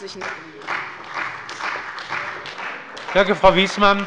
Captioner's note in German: Beifall bei der CDU